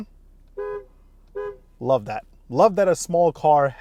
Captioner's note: horn honks